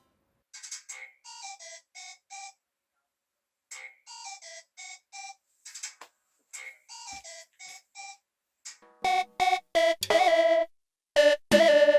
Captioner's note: ringtone starts playing